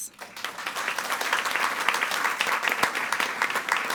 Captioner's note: all applauding